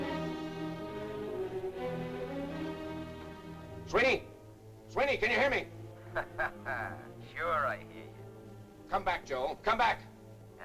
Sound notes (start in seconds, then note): 0.0 dramatic music; 6.0 laughs